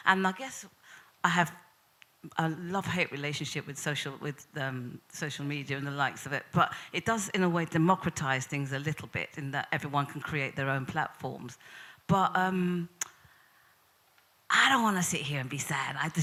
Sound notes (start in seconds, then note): none